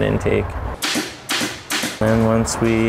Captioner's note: stapler sounds